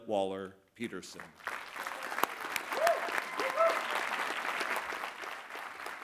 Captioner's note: applause